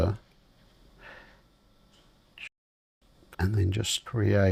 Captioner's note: silence